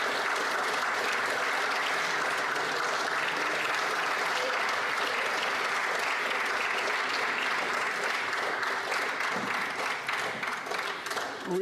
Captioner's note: applause